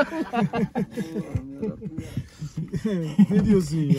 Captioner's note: laughs